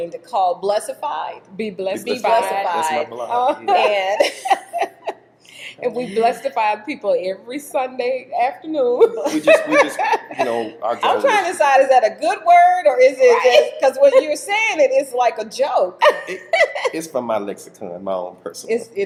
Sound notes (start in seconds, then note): 4.6 laughs